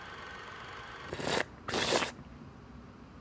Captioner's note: slups